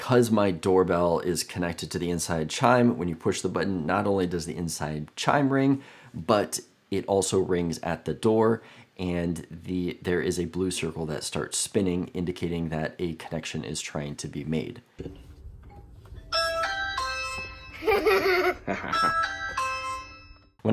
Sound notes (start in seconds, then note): 16.0 doorbell rings; 17.7 child laughs; 17.8 adult laughs